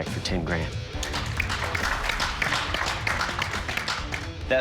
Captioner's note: applause